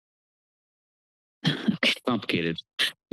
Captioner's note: laugh